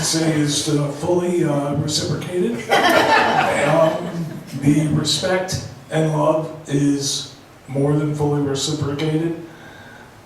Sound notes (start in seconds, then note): 2.6 laughs